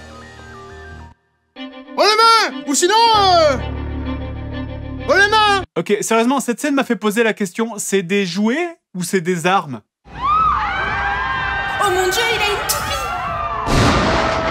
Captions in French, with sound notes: Haut les mains !! Ou sinon euh... ...Haut les mains !! OK sérieusement cette scène m'a fait poser la question: c'est des jouets ou c'est des armes ? (Cris de panique) Oh mon dieu il a une toupie ! (détonation)